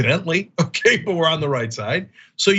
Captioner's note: laugh